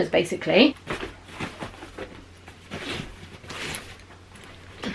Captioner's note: bags rustling